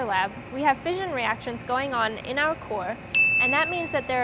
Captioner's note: dings